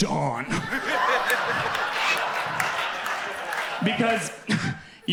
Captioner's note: audience laughing